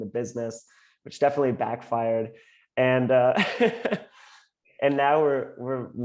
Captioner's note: laughs